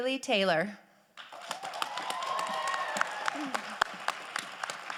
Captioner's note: crowd applauding